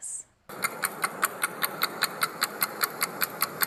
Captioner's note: clock ticking